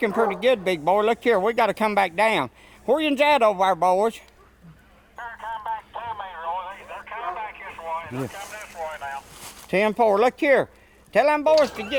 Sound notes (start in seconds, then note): 0.0 dogs barking; 4.4 man On Walkie Talkie